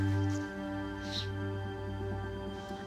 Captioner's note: sniffles